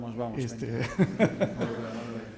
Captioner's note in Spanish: risas